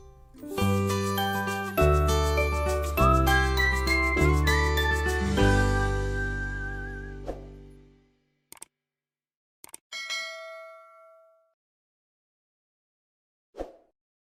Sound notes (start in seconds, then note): 9.6 clicking; 9.9 bell rings